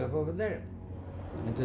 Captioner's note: train driving